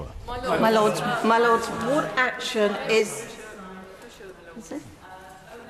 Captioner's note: chatter from the crowd